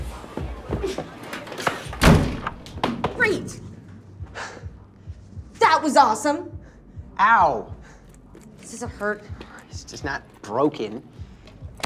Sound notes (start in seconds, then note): 1.8 door slams